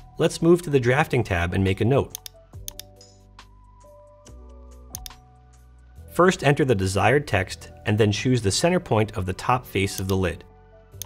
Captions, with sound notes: Let's move to the drafting tab and make a note. (mouse clicking) First, enter the desired text, and then choose the center point of the top face of the lid.